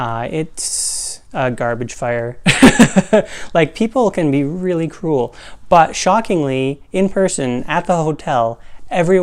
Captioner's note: laugh